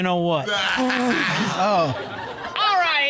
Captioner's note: all laughing